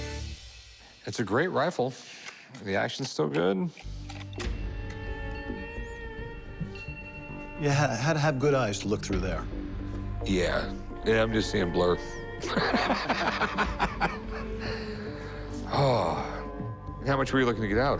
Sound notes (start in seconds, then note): 3.8 tense music plays; 12.4 laughs